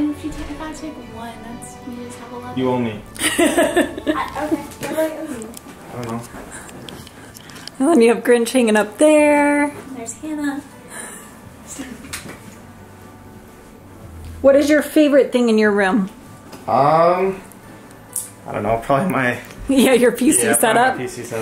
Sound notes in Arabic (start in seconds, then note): 3.2 تضحك